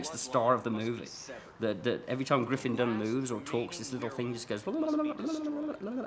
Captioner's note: wiggly noise